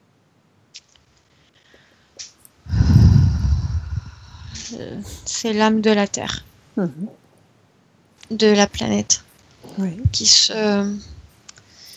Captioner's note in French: respirations